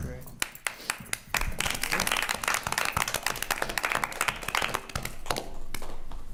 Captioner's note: attendees applauding